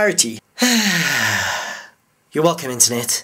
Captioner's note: sigh